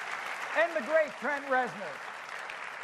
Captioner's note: cheers and applause